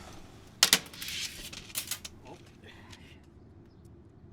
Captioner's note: clatter